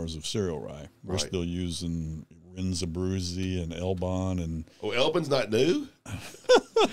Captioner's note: laughing